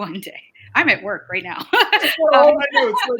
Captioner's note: laughing